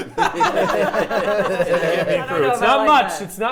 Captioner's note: players laughing